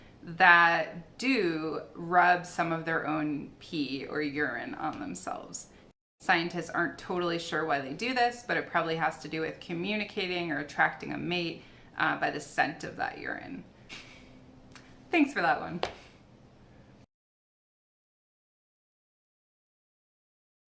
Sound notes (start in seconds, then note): 13.9 chuckles